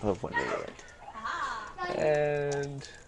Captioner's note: typing